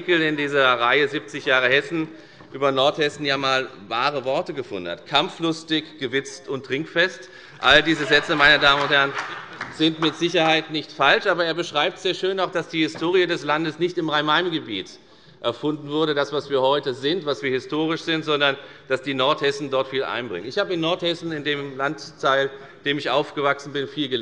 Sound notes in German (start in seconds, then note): 7.6 Große Heiterkeit